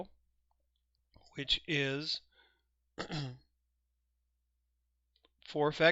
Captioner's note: clears throat